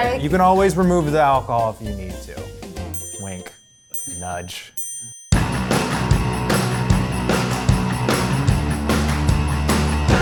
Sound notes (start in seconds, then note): 2.9 ding